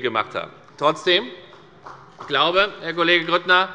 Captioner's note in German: Beifall bei der FDP